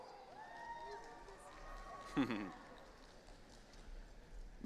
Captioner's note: audience cheering